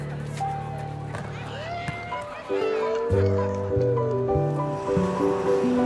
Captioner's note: gentle instrumental music; neighbors chattering indistinctly; uplifting instrumental music